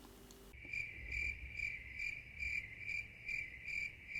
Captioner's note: crickets chirping